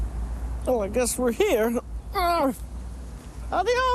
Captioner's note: groans